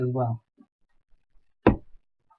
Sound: yet Another Random Thud

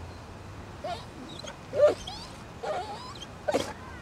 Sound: Owen whimpers

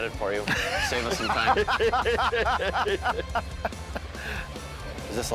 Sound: all laughing

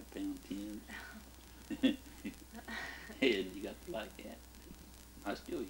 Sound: both chuckle

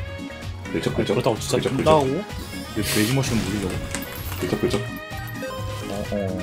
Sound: keeps scratching

